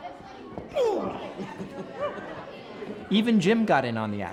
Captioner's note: grunts